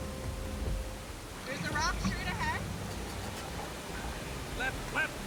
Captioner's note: none